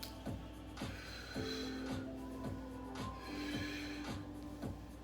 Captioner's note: breaths heavily; upbeat music; breaths heavily; upbeat music